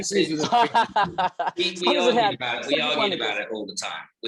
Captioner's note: laughs